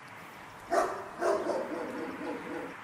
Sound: dog barking

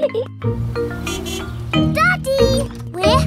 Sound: horn honks

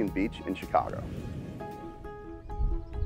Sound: whooshing; soft music

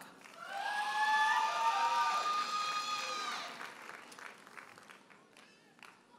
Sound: audience cheers and applauds

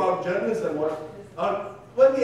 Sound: female speaking softly

